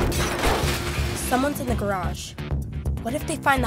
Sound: crashing

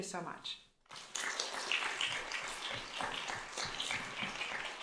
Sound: applause

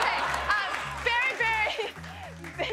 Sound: laughs

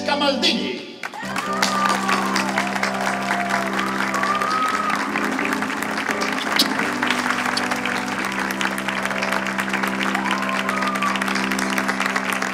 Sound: applause

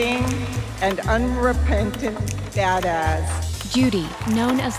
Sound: applause

